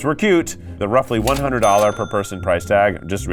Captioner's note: graphics blipping